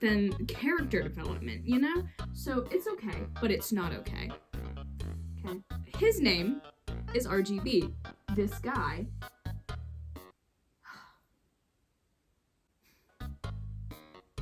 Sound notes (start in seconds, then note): 10.8 sigh